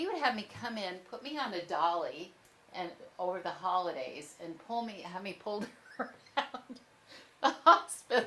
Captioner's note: laughs